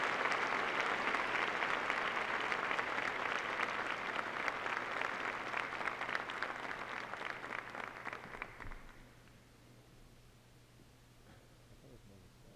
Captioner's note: applause